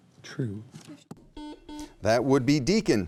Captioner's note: buzzer beeping